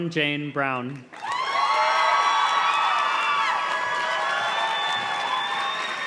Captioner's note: audience cheers and claps